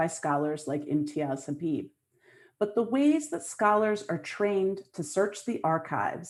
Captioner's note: non-english speech